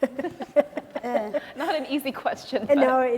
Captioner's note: laughing